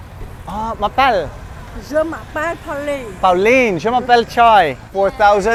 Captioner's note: speaking French